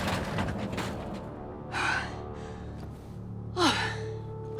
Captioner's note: sighs